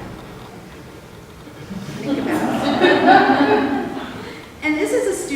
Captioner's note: laughter